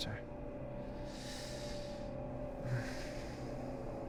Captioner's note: sighs